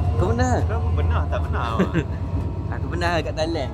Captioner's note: laugh